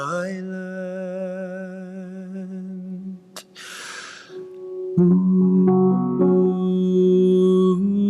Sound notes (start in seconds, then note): 3.3 man vocalizing